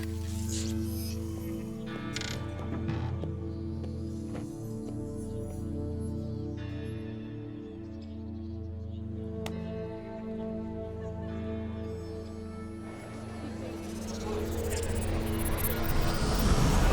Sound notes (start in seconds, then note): 2.8 suspense music; 11.4 indistinct chatter